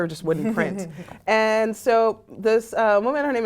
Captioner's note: laugh